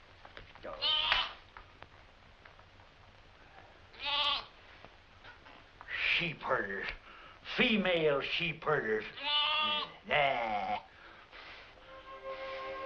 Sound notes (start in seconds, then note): 9.1 bleating